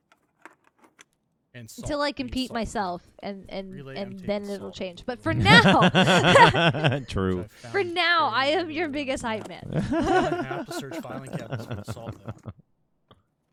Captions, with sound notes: - Until I compete myself, and then it'll change. But for now. (laughing) - True. - For now, I am your biggest hype man. (laughing)